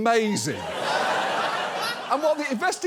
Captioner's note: studio audience laughs